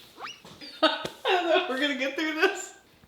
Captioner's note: Brandon's wife laughing